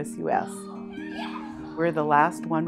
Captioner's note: children shouting